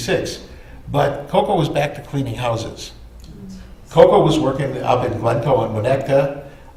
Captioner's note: audience stirs